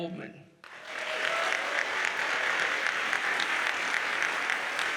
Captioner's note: audience applauds